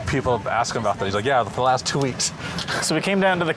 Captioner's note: laughs